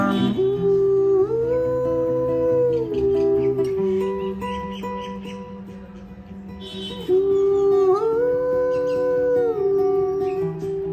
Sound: ooh ooh

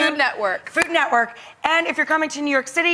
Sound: claps

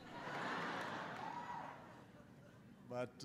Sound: laughter

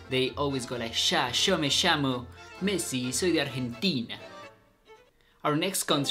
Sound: speaking in foreign language

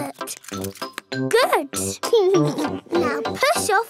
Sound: chuckles

